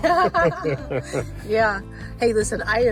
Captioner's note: pair laughs